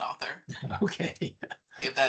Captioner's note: laughing